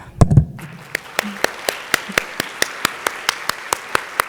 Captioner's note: audience applauding